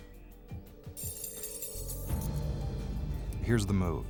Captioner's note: rings clinking